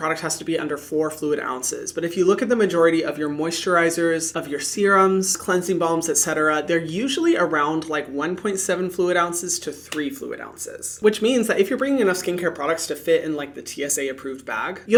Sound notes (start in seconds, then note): none